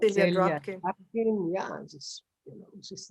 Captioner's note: non-english